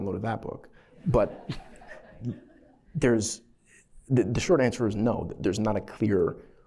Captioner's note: laughter